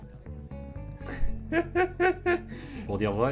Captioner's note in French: Rires